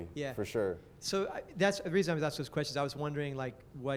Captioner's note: voiceover